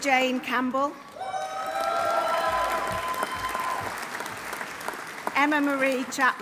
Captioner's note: audience applauding; audience cheering